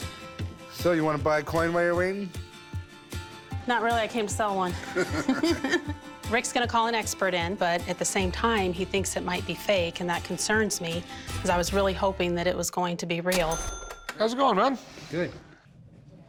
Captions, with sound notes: So you want to buy a coin while you're waiting? Not really, I came to sell one. [laughter] Rick's going to call an expert in. But at the same time, he thinks it might be fake and that concerns me because I was really hoping that it was going to be real. How's it going, man? Good.